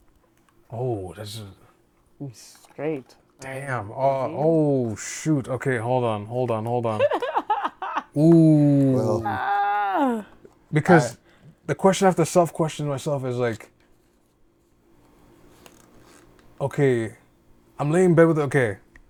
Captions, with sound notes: - Oh, that's. - Straight. - Damn, oh shoot. Okay, hold on, hold on, hold on. (laughing) - Ooh. - Ah. - Because the question after the self-question myself is like, okay, I'm laying in bed with, okay.